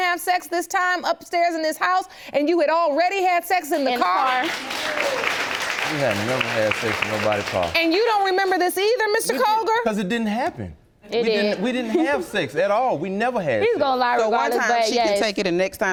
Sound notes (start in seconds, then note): 3.8 audience applauding